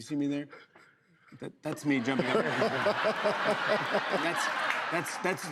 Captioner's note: laughter